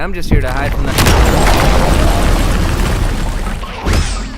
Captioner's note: crashing